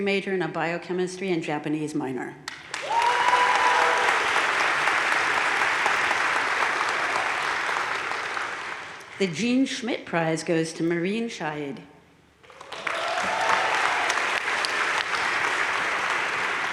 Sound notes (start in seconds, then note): 2.6 crowd cheering and applauding; 12.4 crowd cheering and applauding